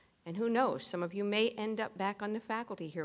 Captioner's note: none